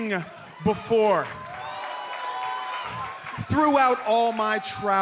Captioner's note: cheers and applause